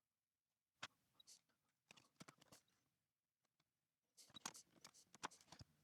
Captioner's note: blank Audio